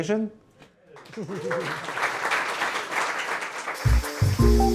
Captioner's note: applause